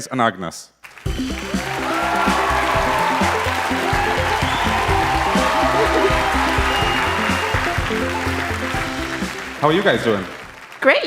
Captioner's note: cheers and applause